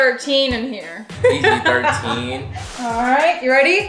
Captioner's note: laughing